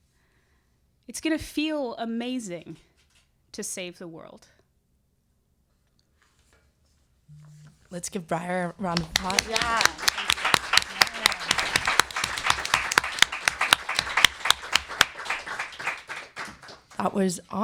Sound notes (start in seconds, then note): 15.2 applause